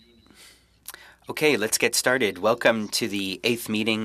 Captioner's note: speaking French